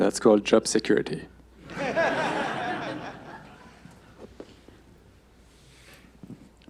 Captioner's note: laughter